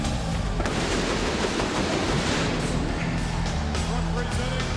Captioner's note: pyro exploding